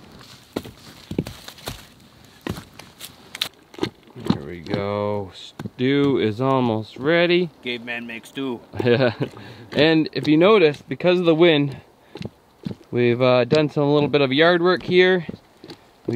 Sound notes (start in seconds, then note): 0.6 thudding logs; 8.7 laughing